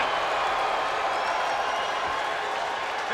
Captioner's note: spectators cheering and applauding